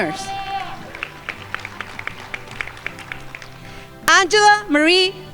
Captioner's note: crowd applauding